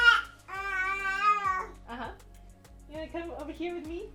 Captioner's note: baby screaming